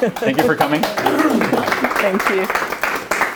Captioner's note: applause